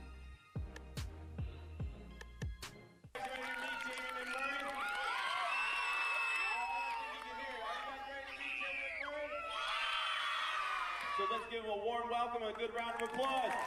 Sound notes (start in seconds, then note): 3.6 cheering